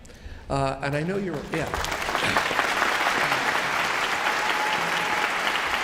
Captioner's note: audience applauds